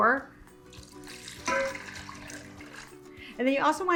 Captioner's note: liquid splatters; glass clinks